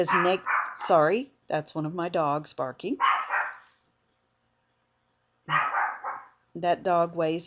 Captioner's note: dog barking in background